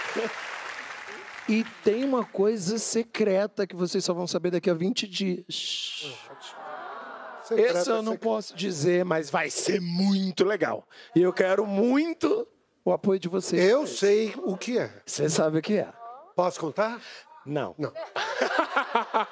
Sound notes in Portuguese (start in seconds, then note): 3.1 aplausos